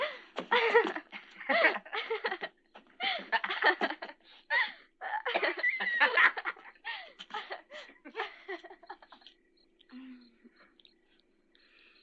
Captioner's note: laughter